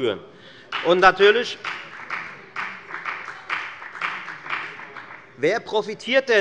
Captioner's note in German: Beifall bei der FDP